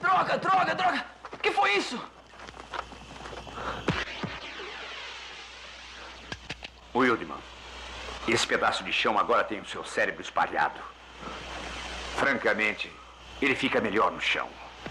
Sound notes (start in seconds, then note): 3.4 flare Hissing